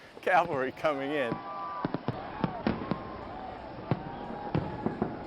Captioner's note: fireworks blasting